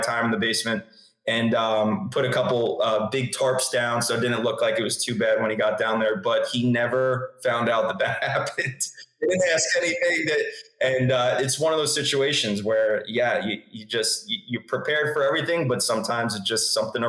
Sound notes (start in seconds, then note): 8.6 laughs